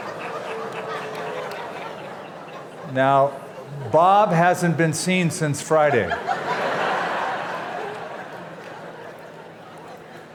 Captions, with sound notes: Now, Bob hasn't been seen since Friday. [LAUGHTER]